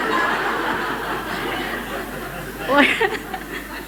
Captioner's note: laughter